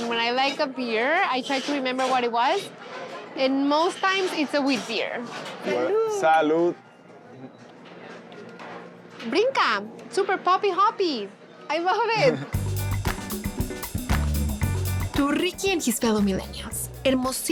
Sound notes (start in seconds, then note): 9.4 speaking Spanish